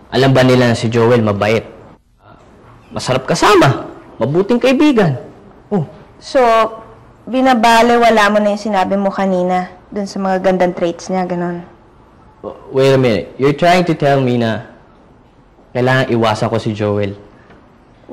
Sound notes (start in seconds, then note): none